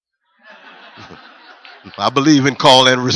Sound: laughter

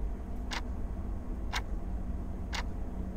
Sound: clock ticking

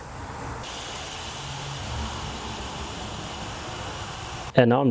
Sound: sizzling sound

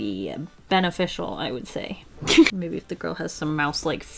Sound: laughs

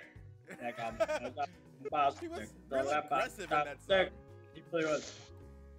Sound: laugh

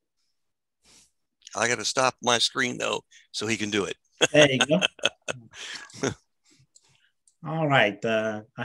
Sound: ha hah

